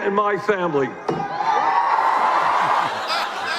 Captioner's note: cheers; laughter